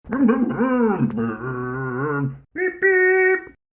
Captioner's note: Scruff makes scooter noises